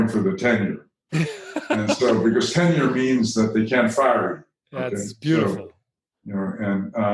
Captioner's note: chuckle